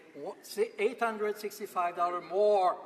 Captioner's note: speaking French